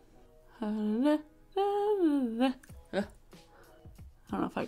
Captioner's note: humming